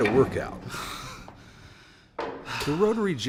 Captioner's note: man panting